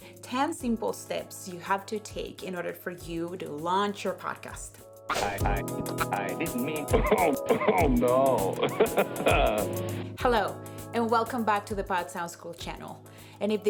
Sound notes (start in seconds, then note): 5.6 digital Voice; 6.9 laughing